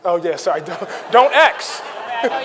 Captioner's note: audience laughing; chuckles